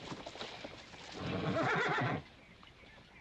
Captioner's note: horse neighing